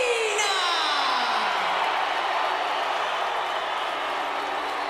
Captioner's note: crowd cheering